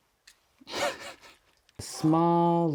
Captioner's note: laughs